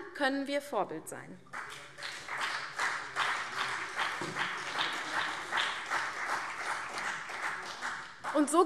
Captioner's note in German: Beifall CDU und BÜNDNIS 90/DIE GRÜNEN